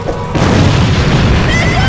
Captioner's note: explosion